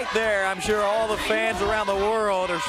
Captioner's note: crowd chatter; crowd cheering